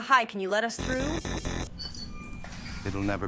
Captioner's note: buzzer ringing